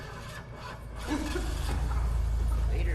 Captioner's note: avviamento del motore